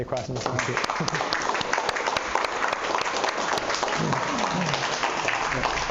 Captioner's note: applause